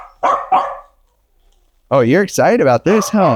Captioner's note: dog barks